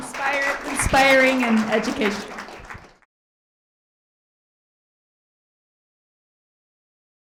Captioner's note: participants applauding